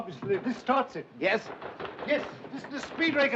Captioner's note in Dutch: bonzen op de deur